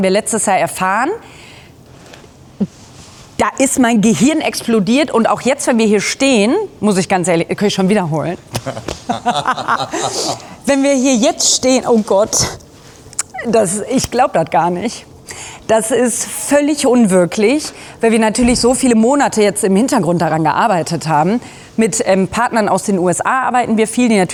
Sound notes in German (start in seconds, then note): 8.5 gelächter